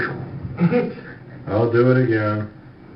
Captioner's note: interviewer chuckles